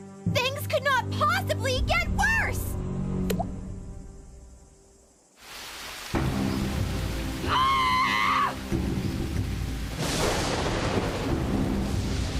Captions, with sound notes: Things could not possibly get worse!!! (Courtney Yelling)